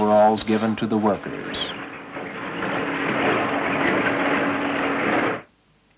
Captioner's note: conveyor belt system grinding